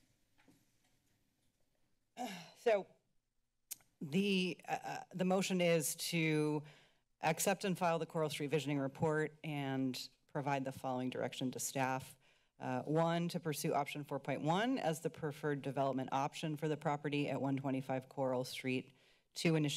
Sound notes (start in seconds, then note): 2.2 sighs; 3.7 clicks tongue